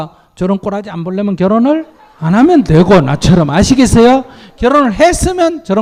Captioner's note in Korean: 청중 웃음